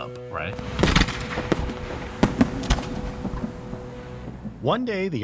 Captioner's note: fireworks bangs and pops